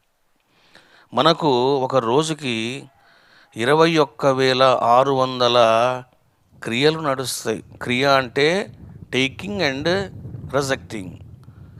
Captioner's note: inhaling and exhaling